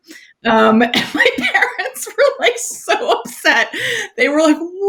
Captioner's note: laughs